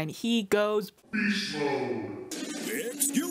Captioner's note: deep voice